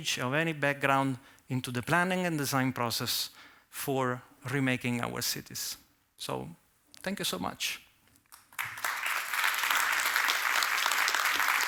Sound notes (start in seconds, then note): 8.3 applause